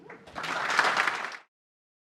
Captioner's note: applause